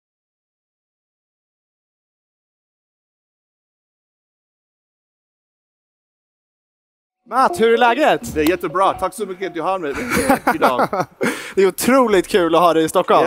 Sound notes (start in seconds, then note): 7.2 speaks in Swedish